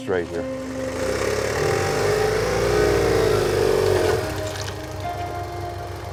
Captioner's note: motorcycle engine revving